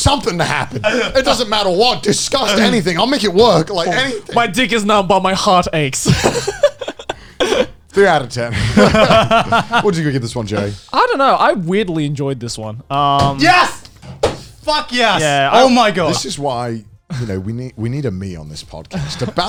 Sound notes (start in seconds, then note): 6.0 laughs